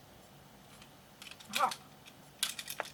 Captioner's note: plastic clicks